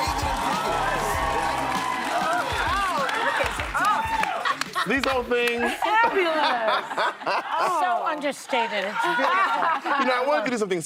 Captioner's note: applause